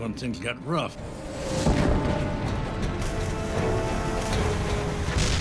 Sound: cannon shots exploding

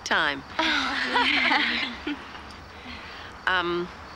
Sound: giggling

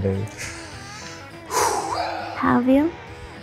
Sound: deep breath

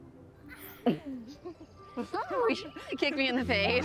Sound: laughter

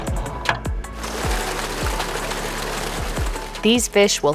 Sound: water sloshing

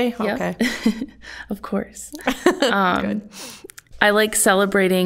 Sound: chuckling

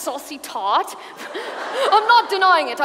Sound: audience laughs

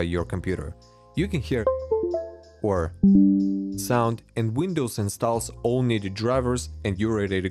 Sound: Windows 10 sound; Windows 11 sound

